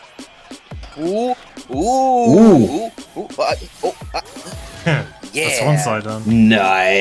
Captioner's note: "ooh"-ing